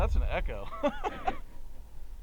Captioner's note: laughing